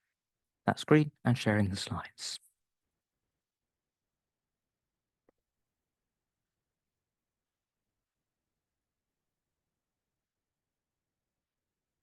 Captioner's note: long pause